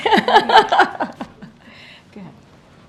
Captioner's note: laughter